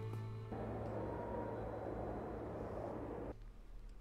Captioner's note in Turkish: Rüzgâr sesi